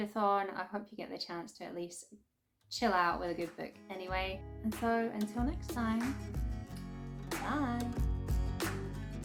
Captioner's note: kiss